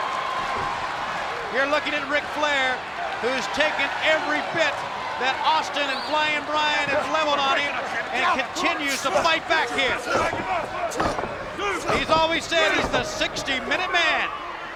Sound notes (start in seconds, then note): 10.9 blows thudding; 10.9 wrestlers grunting